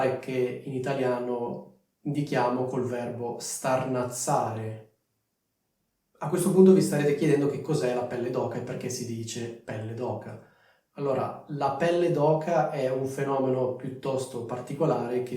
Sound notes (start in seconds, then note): 9.1 in Italian